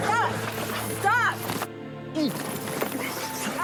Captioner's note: grunting